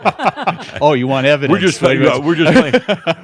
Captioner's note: laughing; he continues chuckling